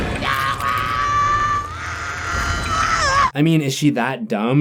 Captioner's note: screaming